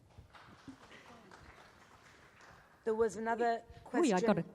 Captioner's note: loud applause